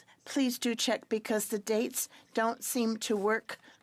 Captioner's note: speaking French